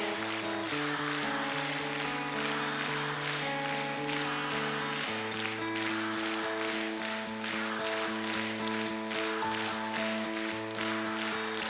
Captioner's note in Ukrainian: оплески